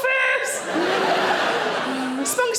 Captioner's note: audience laughing